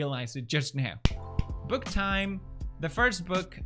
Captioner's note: clap Clap... Clap